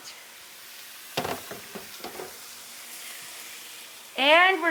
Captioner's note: pan sizzling